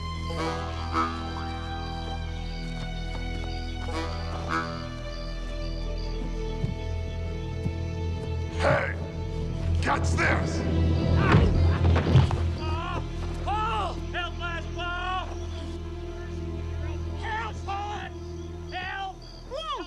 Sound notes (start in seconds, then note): 9.7 Percey yells; 11.2 log thuds